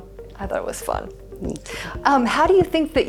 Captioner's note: shyly